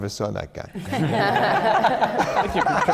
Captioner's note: laughter